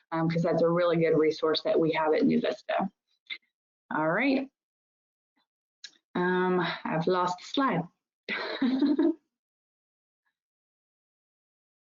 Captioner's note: chuckles